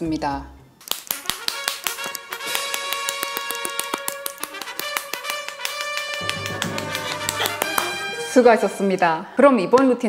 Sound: infinite applause

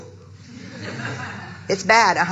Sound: audience laughing

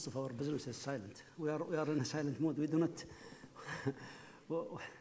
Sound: laughs

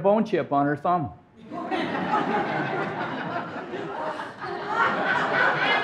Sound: audience laughing

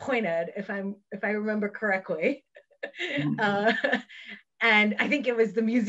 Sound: laughs

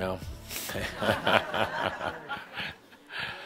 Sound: some laughter

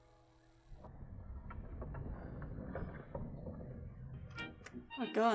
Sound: sliding

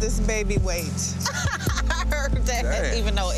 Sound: laughing

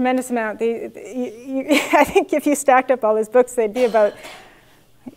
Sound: laugh

